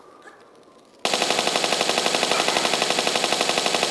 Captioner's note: bratatatatata